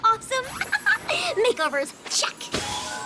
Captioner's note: giggles